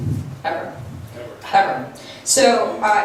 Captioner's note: voiceover